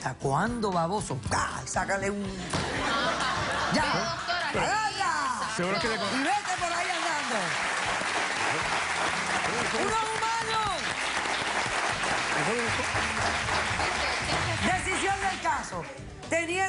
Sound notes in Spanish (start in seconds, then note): 2.4 Risas; 8.5 Aplausos